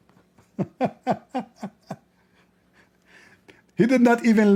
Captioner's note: Ketawa